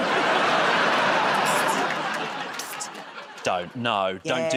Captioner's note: laughter and applause